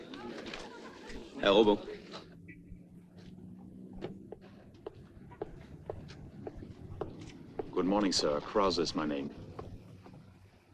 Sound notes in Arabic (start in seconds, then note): 0.7 يتحدث بلغة أجنبية